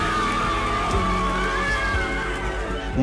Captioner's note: applause